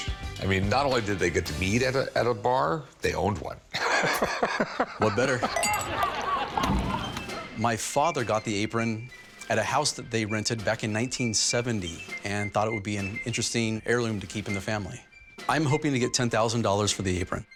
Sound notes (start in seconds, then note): 5.3 men laughing; 5.3 glasses clink